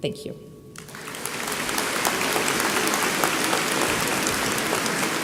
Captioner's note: audience applauding